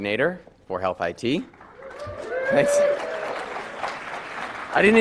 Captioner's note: applause